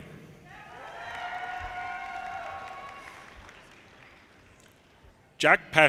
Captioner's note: audience cheers and applause